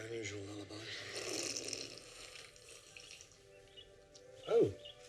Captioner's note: slurps loudly